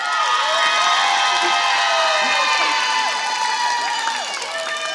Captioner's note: applause